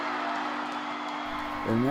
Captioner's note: crowd cheering